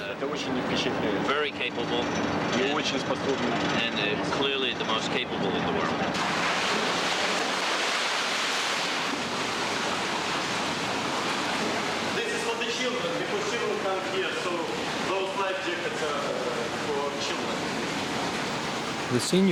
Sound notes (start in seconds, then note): 0.3 russian officer speaking in Russian; 2.6 russian officer speaking in Russian; 6.4 water splashing; 15.4 splashing over speech